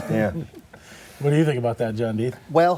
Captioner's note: laughter